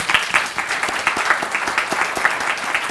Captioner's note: applause